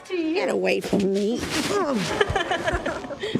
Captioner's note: grunts